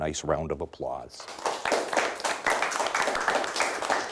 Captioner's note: clapping